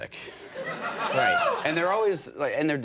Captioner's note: audience laughing